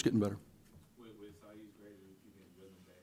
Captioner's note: voiceover